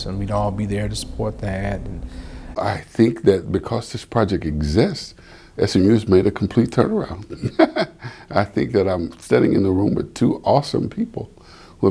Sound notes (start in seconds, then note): 7.2 laughs